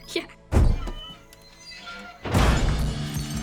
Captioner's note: door creaks; rock music playing